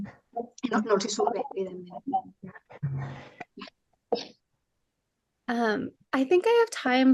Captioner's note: continues speaking in Catalan